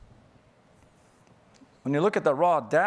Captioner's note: none